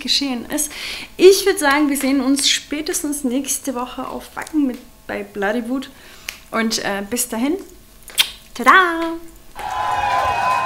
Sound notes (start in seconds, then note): 8.0 kisses